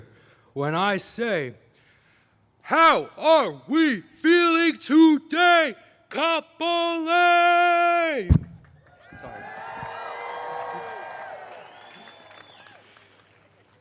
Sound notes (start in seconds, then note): 8.7 applause